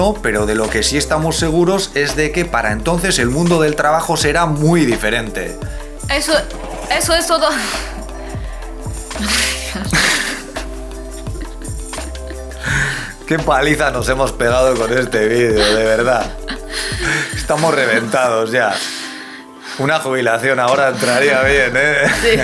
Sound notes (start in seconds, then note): 9.2 starts laughing